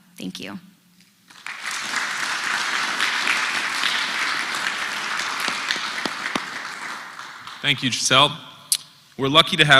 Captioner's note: applause